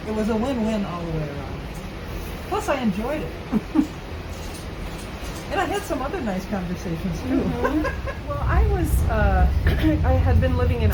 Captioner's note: laughs